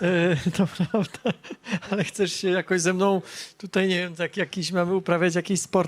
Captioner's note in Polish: śmiech